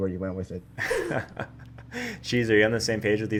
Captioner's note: laughter